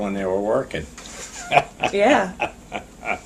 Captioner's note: laughs